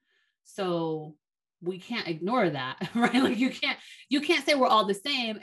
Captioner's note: chuckles